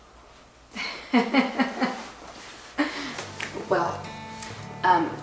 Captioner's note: laughing